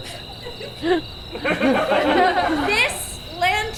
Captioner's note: audience laughs